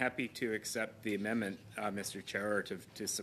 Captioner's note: speaking french